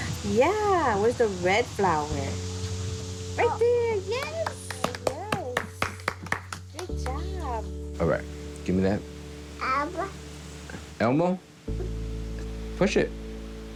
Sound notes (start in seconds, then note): 4.1 clapping; 9.6 babbling